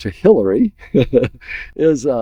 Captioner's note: laughs